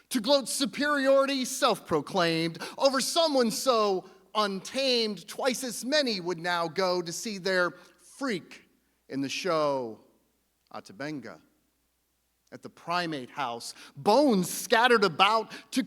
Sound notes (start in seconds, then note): none